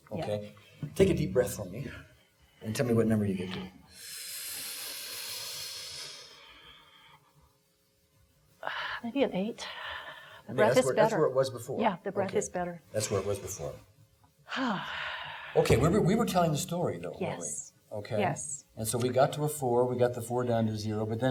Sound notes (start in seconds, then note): 3.9 inhaling sharply; 9.6 exhaling; 14.5 exhaling